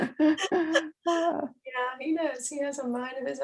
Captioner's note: both laughing